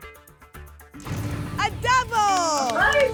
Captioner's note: booms